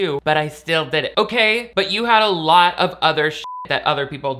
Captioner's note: beep